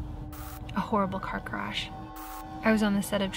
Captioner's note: static crackles